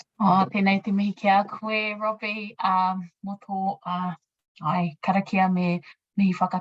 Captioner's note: speaking in foreign language